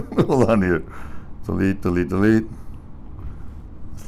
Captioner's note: laughs